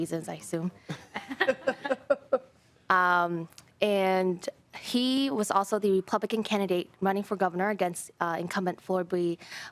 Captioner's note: laughing